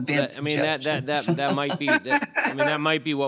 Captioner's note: laughing